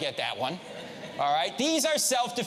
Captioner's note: audience laughs